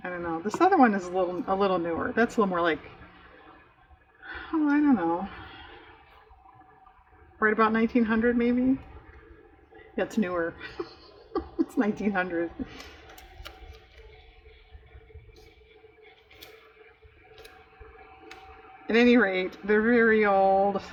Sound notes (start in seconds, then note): 14.2 laughs